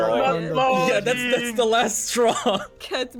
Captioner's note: laughs